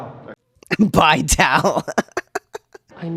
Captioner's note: laugh